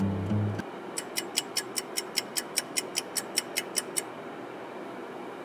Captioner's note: clock ticking